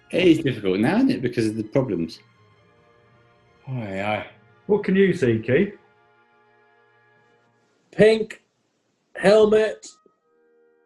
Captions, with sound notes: It is difficult now, isn't it, because of the problems. [SIGHS] What can you see, Key? Pink... Helmet...